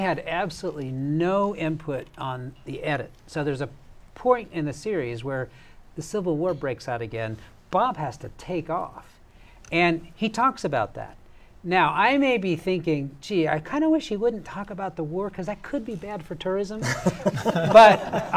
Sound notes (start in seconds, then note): 16.8 laughter